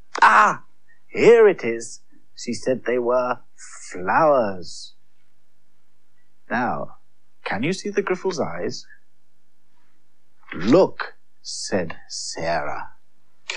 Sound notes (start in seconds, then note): none